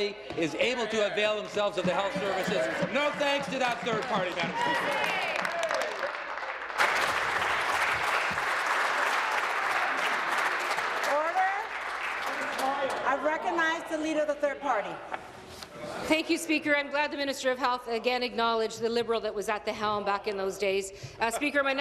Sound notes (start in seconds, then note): 9.0 applause